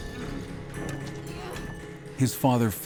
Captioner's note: boys grumbling